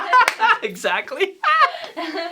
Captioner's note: laughter